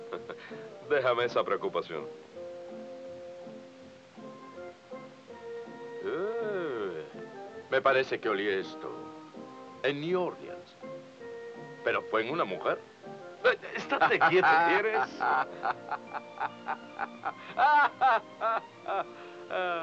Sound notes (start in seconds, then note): 0.3 laughs; 13.4 both laughing